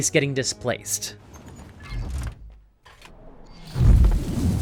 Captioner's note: subtle warping sound; whoosh